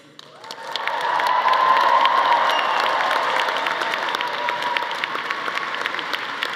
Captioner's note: audience applauding; audience cheering